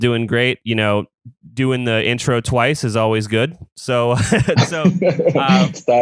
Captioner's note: laughs